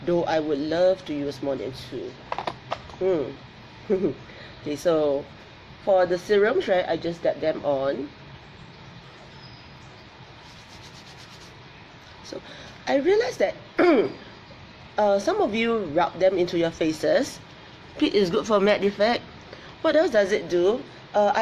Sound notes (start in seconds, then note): 3.8 laughs; 13.9 clears throat